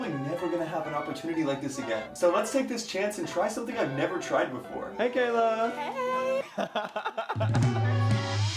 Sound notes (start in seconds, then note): 3.3 laughs